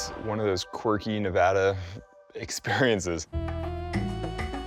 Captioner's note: chuckling